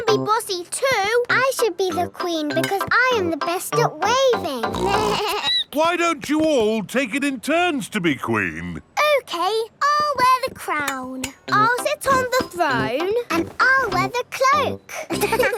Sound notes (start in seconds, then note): 4.7 snorts; 4.7 bleats; 14.9 laughing